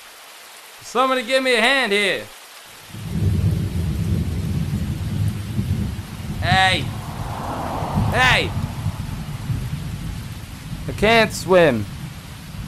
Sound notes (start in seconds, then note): 0.1 rainfall; 3.9 car passing